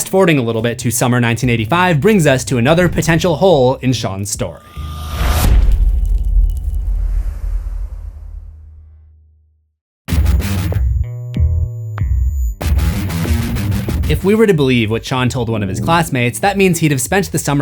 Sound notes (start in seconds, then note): 4.6 impact